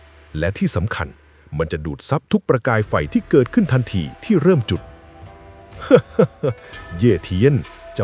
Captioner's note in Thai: เสียงหัวเราะ